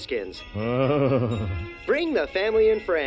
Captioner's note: Homer moans